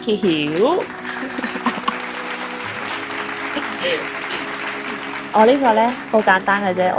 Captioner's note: clapping and laughter